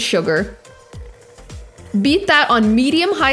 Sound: mixer whirring

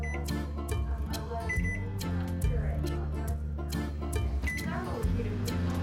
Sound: microwave beeping

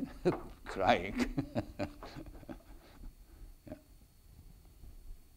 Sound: laughs; chuckles

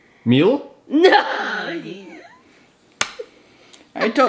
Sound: laughs

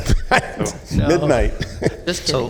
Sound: laughter

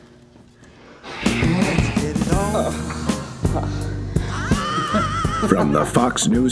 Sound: moans

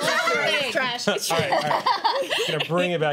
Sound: laughter

